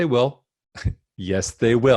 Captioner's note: scoffs